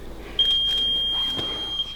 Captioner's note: beep